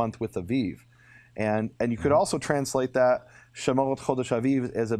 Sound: speaking in Hebrew

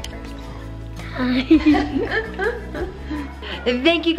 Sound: laughing

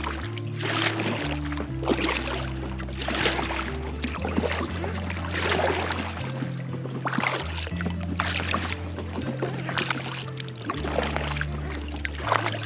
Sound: water splashing and music

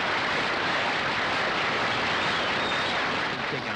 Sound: audience applauding

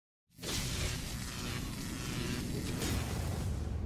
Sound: electricity buzzing

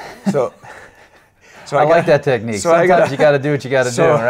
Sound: laughs

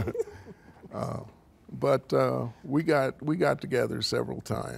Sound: group laughing

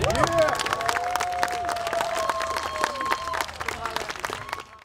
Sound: audience applauds

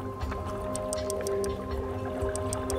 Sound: whale clicking

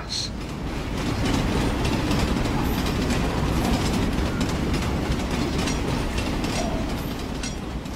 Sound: tram rolling past

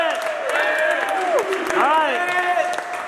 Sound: cheering

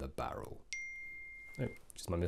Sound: ping

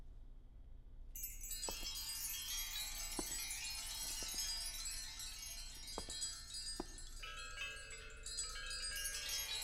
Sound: wind Chimes

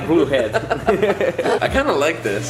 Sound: laughs

